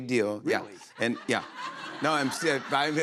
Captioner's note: laughter